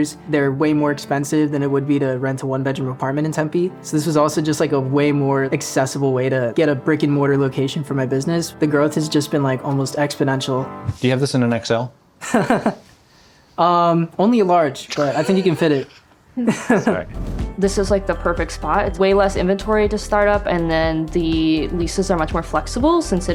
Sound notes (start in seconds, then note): 12.2 chuckles; 16.4 chuckles